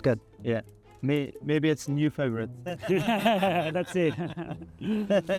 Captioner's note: laughing